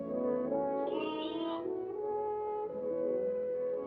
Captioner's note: lamb bleats; sad, romantic music